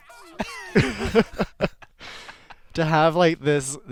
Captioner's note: laughter